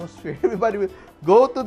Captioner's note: laughs